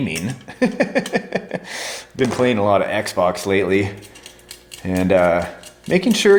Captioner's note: laughs